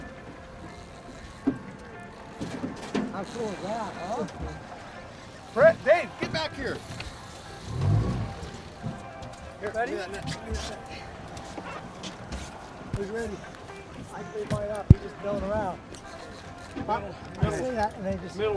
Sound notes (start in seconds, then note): 7.8 boat enging running